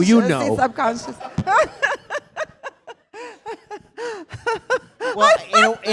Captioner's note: laughs